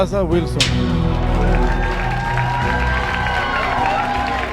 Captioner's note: audience cheering